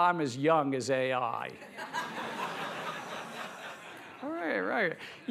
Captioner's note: laughter